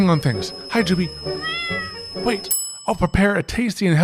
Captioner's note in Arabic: مواء القطة